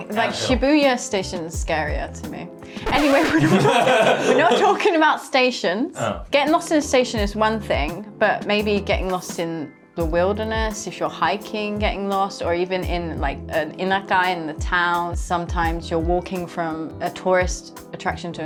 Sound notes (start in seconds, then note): 3.0 chuckling